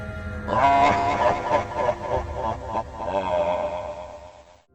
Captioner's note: maniacal Laughter